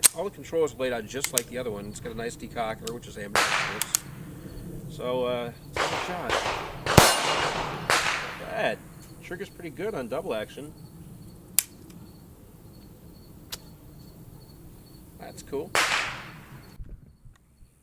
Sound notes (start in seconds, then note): 11.6 click